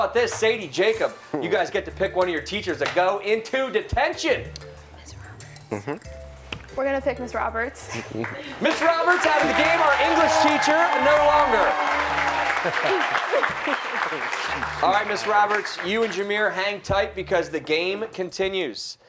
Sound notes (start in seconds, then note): 12.4 applause